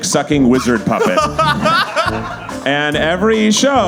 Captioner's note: Zach laughs